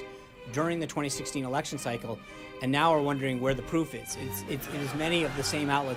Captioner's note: laugh track